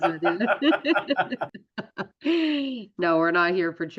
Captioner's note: laughter